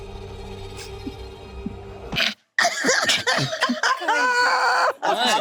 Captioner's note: laughing